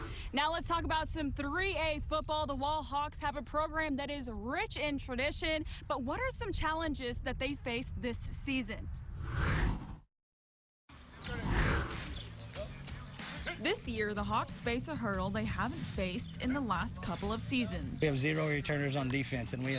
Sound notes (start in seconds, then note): 0.0 air whooshes; 9.1 air whooshes; 11.0 players chatting; 11.3 upbeat music; 13.0 Coach shouts